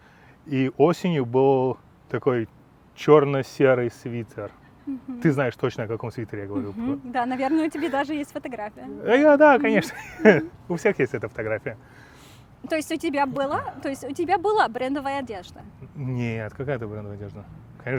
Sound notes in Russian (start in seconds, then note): 9.3 смеется